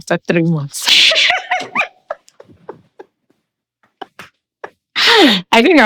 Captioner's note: laughing